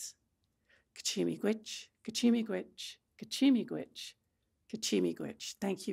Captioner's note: speaking Anishinaabemowin